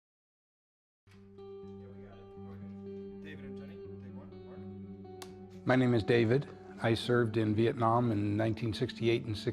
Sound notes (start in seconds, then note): 1.7 faint chatter; 2.4 soft music